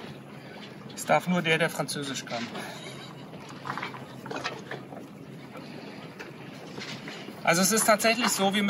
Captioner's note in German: lacht